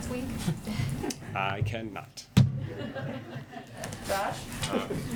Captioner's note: laughter